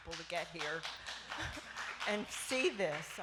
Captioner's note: applause